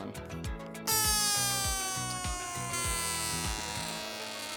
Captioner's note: balloon squealing